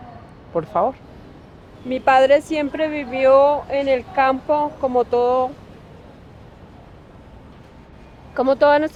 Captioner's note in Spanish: voz entrecortada